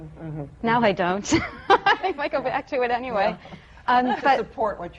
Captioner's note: she laughs